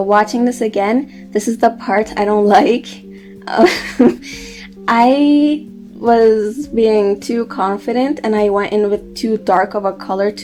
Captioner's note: chuckles